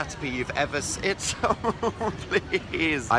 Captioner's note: laughs